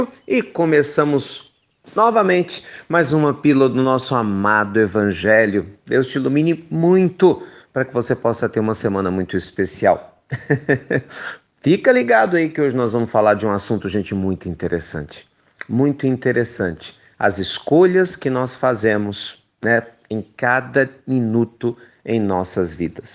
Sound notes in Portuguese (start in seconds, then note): 10.3 risos